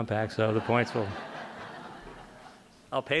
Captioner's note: laughter